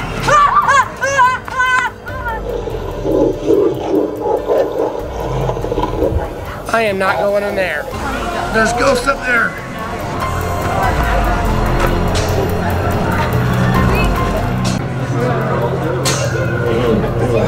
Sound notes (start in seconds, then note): 0.0 pumpkin laughing in evil manner; 0.3 surprised shrieking; 3.7 scary growling; 10.8 eerie unsettling music